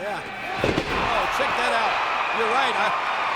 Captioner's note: body thuds